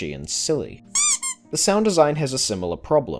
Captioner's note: squeak